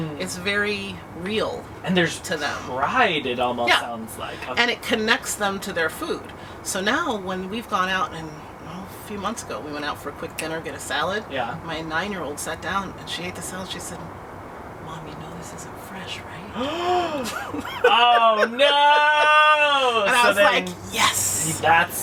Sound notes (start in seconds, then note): 14.4 whispered; 17.1 gasps; 20.2 laughter